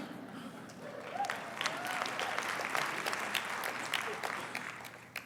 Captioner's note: applause